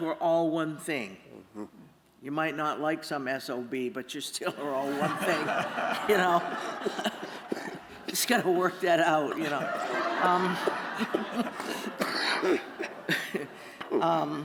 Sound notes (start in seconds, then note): 4.5 laughter